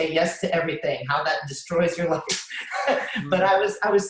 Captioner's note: laughs